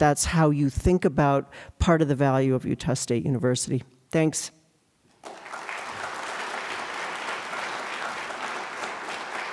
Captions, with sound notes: that's how you think about part of the value of Utah State University. Thanks. [APPLAUSE]